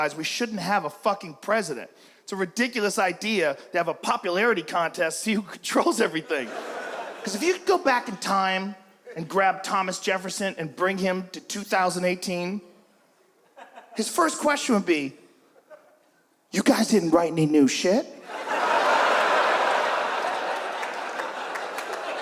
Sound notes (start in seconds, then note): 6.4 audience laughs; 18.2 audience laughs and claps